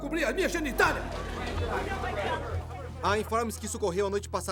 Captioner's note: chatter